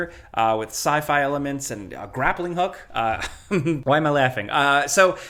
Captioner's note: chuckles